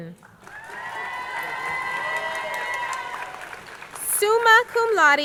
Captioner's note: crowd cheering